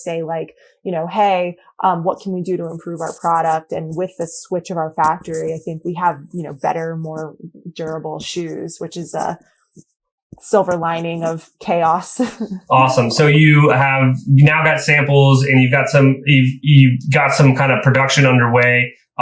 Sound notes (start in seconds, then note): 12.1 laughs